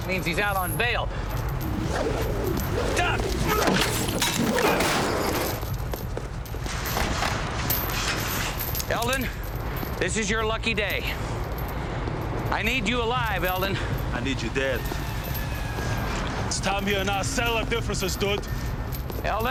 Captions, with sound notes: Means he's out on bail. (whooshing) Duck! (Eldon grunts) Eldon, this is your lucky day. I need you alive, Eldon. - I need you dead. It's time you and I settle our differences, dude. - Eldon,